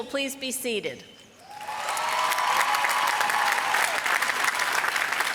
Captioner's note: applause